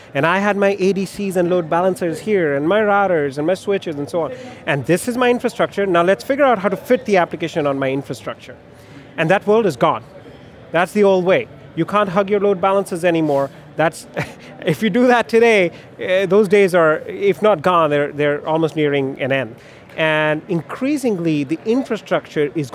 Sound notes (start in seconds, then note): 14.1 laughs